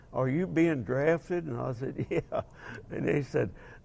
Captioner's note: laughing